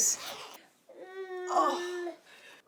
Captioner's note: whining